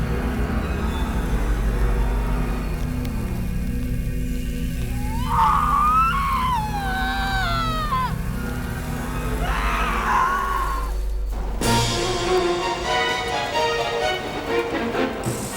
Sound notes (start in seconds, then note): 4.8 screams; 11.9 dramatic exciting music